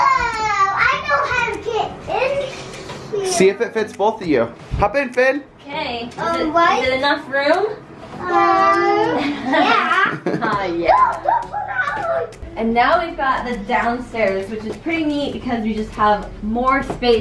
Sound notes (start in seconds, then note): 8.3 kids talking over each other; 9.2 laughter